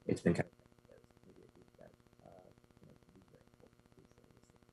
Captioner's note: broken audio